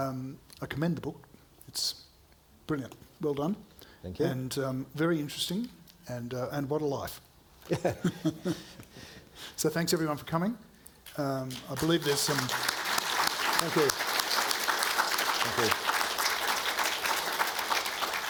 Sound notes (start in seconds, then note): 7.6 both chuckling; 11.4 audience applauding